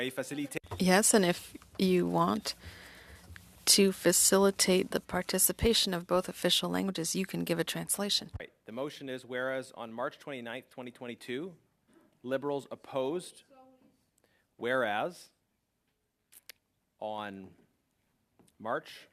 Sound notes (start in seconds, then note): 7.2 speaking french